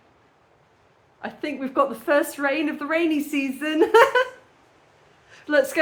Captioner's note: laughing